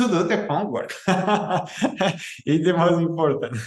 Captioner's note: laughing